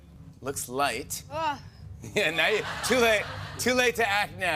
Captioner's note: groans